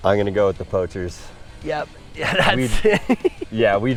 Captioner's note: laughing